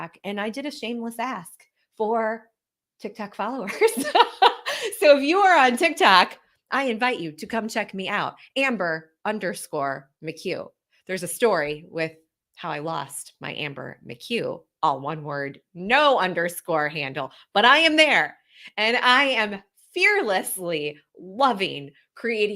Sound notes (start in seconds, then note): 3.6 laughs